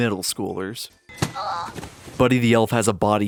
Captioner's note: grunts